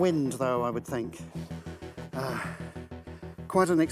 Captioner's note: exhales